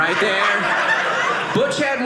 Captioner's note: audience laughing